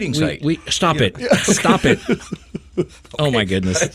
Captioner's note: person laughing